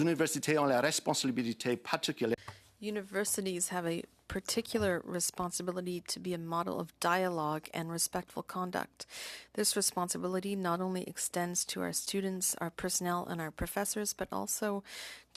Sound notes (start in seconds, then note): 3.9 speaking French